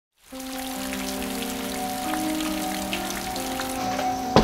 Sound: raining

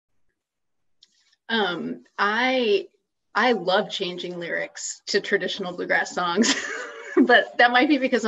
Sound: laughs

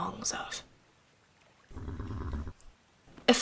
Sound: whinny

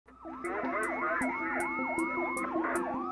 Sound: sirens

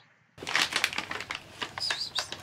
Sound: bag crinkling

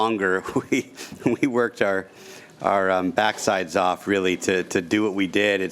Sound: chuckles

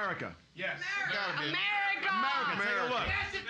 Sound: everyone shouting, "America"

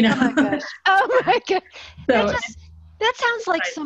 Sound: laughter

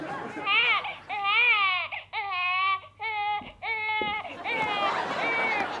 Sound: audience laughter; baby crying; audience laughter

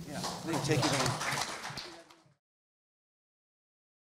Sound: audience applauds

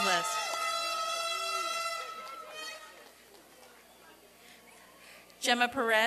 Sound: applause and cheering

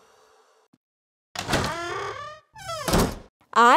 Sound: door squeaking and closing sounds

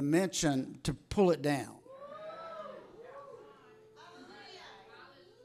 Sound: congregation cheering

